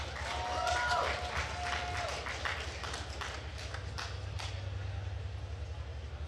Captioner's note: attendees cheering and applauding